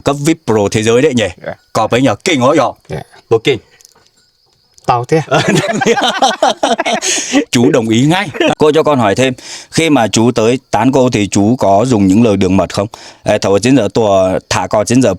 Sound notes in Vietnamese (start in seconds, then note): 5.2 tiếng cười